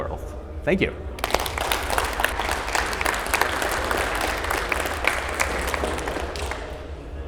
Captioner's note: audience applauds